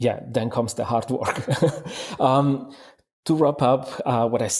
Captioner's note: laughs